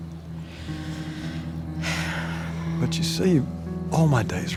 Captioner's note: Angela sighing